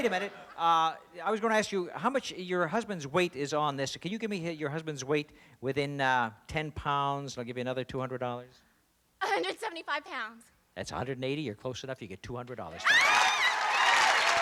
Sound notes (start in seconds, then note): 12.8 screams